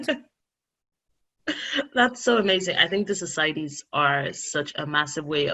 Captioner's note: laughing